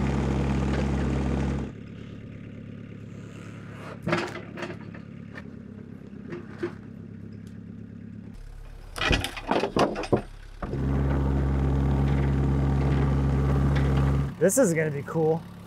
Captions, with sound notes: (slab clatters) (machine rumbles) This is gonna be cool.